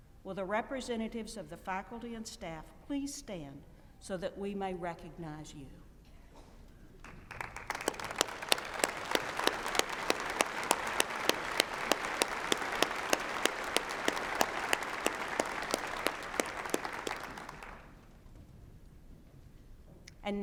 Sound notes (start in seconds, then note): 7.0 applause